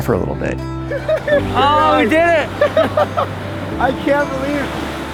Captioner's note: men laugh